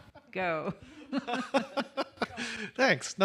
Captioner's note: laughter